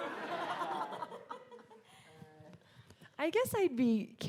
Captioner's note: audience laughing